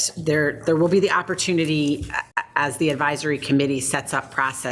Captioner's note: none